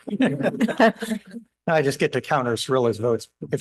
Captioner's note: laughter